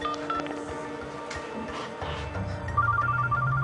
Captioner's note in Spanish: Suena el celular